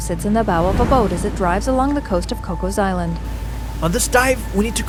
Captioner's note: waves crashing